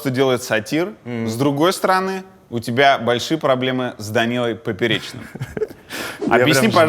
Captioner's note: laughs